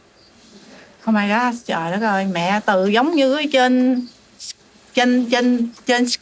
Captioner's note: speaking in a foreign language